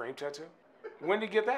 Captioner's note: laughing